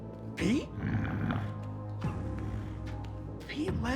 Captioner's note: Pete growls